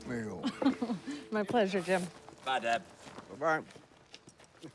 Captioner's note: laughs